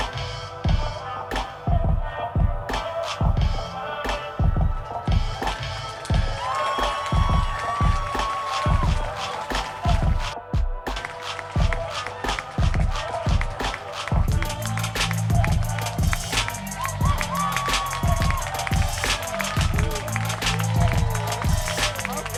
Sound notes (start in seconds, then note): 5.9 applause